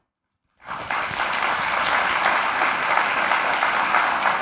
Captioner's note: applause